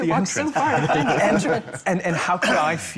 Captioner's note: panellists chattering, laughing